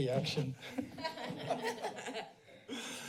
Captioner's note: laughs